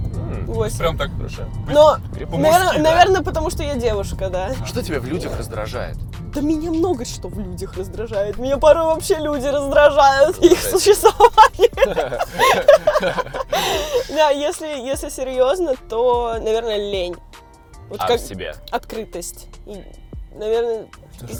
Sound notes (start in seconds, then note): 16.8 laughing